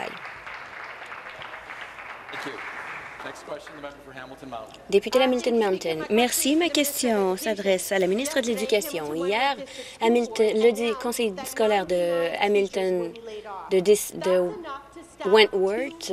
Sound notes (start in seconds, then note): 2.4 applause